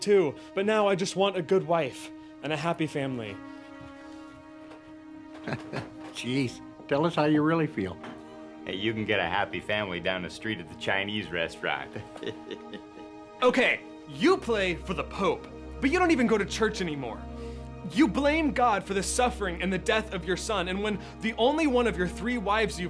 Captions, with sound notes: but now I just want a good wife and a happy family. (Blue laughs) (gentle music continues) - Geez, tell us how you really feel. - Hey, you can get a happy family down the street at the Chinese restaurant. (Blue laughs) (gentle music continues) - Okay, you play for the Pope, but you don't even go to church anymore. You blame God for the suffering and the death of your son. And when the only one of your three wives you've had